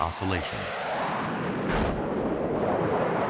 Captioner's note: crash lands